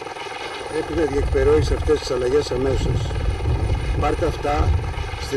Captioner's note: speaking foreign language